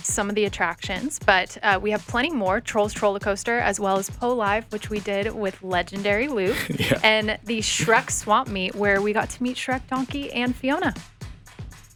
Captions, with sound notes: some of the attractions, but we have plenty more, Trolls Trollercoaster, as well as "PO Live!" which we did with Legendary Luke. - Yeah. (chuckles) - And the Shrek's Swamp Meet, where we got to meet Shrek, Donkey, and Fiona.